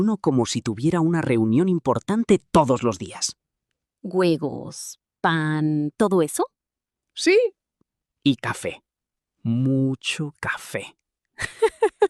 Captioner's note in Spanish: risas